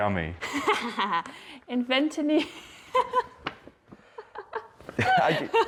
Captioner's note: laughter